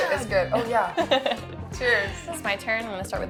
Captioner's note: laughs